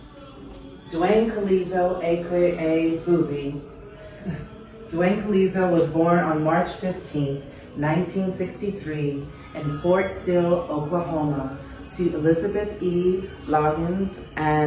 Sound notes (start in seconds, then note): 3.1 chuckles